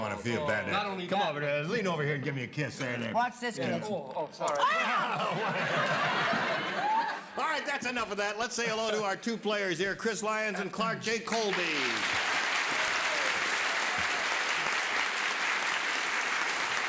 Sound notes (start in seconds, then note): 11.4 cheers and applause